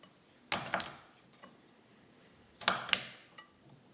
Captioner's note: chopping sounds